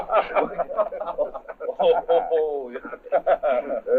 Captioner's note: all laughing